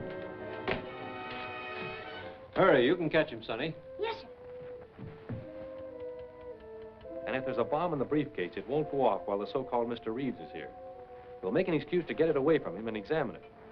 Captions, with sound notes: Hurry. You can catch him, Sonny. Yes, sir. [HURRIED FOOTSTEPS] [TICKING] And if there's a bomb in the briefcase, it won't go off while the so-called Mr. Reeves is here. We'll make an excuse to get it away from him and examine it.